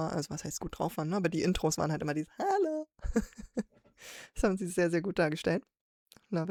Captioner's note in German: gelächter